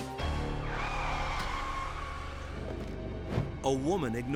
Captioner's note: tires screeching